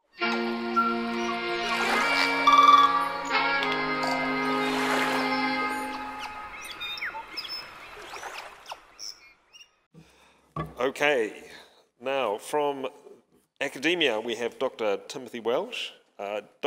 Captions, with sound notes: (bright music) (birds chirping) (water splashing) - Okay, now from academia, we have Dr. Timothy Welch.